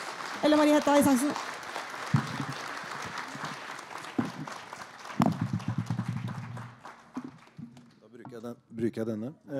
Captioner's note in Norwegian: Applaus